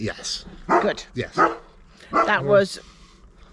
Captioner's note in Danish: hund gøen